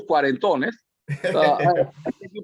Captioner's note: laugh